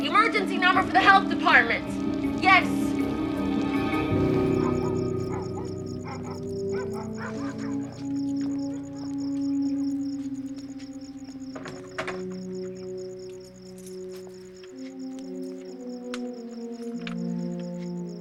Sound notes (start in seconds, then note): 4.3 dog barking; 7.3 soft suspenseful music; 10.6 crickets chirping; 13.8 soft suspenseful music